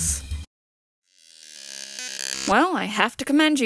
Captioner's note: silence, scratchy electronic noise plays